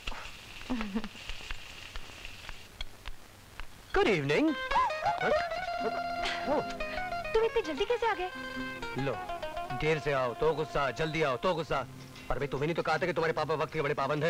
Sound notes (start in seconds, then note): 4.4 Gasps